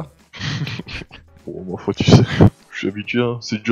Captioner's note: laugh